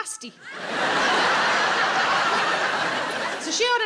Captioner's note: audience laughing